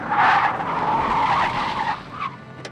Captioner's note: tires squeal